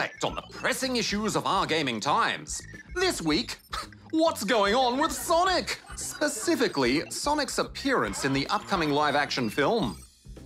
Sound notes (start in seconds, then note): 3.6 snorts